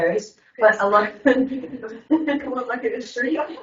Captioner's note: laugh